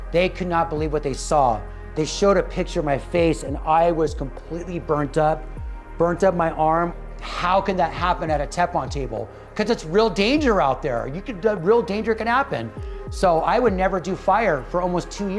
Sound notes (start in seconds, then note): none